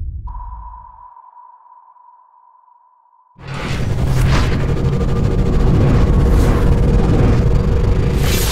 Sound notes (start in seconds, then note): 3.4 whooshing